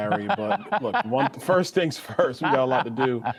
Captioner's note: laughter